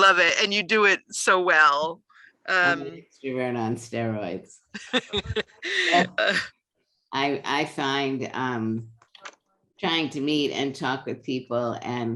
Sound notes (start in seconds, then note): 4.7 laughter